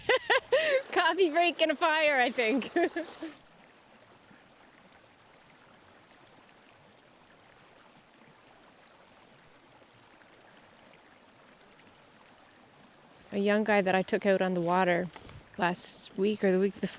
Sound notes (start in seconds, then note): 0.0 laughing; 4.7 water dribbling